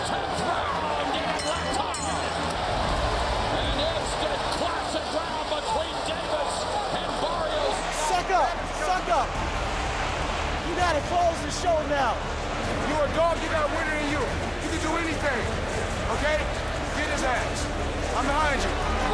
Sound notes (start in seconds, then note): 3.0 bell dings; 3.0 cheers and applause